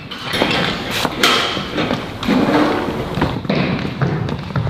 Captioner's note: door opens